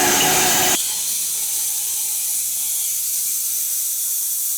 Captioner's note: sawdust whooshing